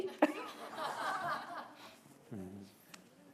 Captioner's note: laughter